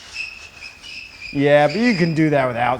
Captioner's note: shoes squeaking